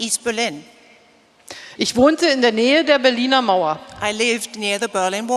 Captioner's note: speaking in German